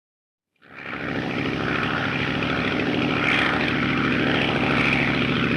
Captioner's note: airplane motor whirring